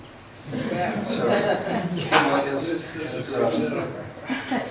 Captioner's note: laughs